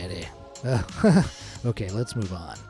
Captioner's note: nervous-laugh